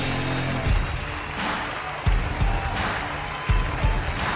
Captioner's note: crowd cheering